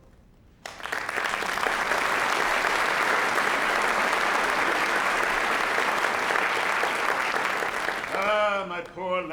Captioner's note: applause